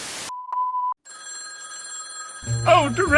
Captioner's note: phone ringing continuously